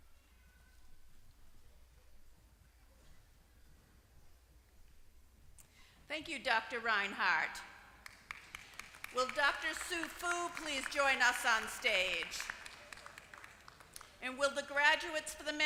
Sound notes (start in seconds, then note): 8.0 applause